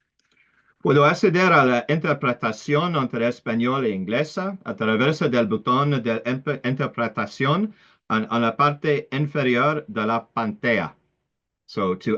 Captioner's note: Spanish